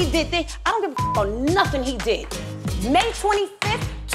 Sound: beep

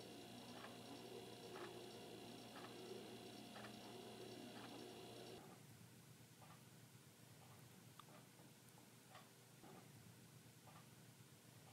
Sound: clock ticking

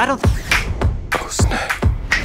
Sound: snapping; whispers

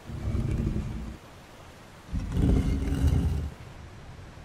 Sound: coffin lid scraping

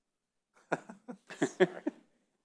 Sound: laughing

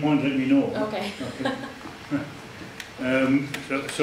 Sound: chuckles

